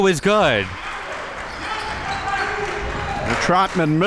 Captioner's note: audience applauding